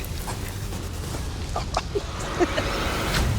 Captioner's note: laughs